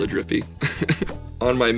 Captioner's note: laughs